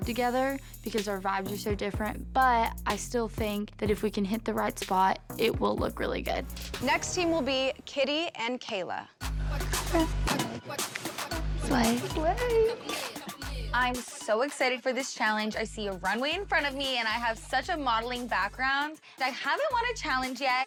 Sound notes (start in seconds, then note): 8.8 gasps